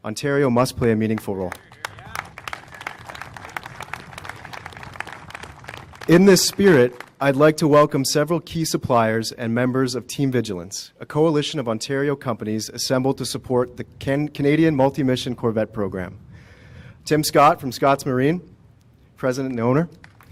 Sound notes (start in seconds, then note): 6.5 applause